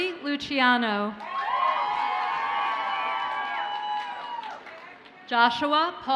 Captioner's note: audience cheers and applauds